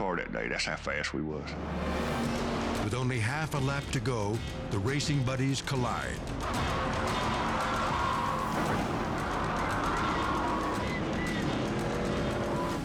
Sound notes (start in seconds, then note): 6.4 tires screech; 8.5 crash thundering; 9.4 horns beep